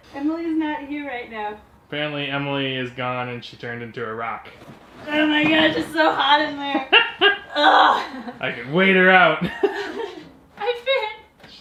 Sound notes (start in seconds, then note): 6.5 laughing